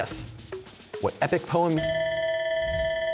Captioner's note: bell ringing